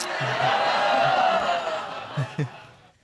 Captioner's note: audience exclaiming